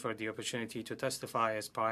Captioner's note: speaking French